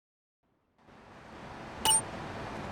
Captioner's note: tires screech